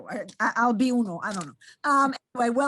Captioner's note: speaks in foreign language